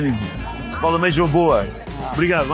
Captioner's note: speak Portuguese